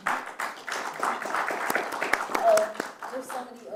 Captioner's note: applause